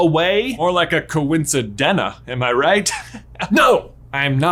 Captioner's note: chuckles